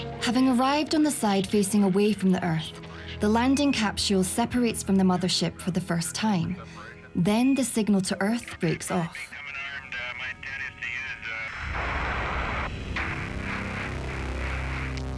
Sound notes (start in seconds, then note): 9.1 radio transmission and static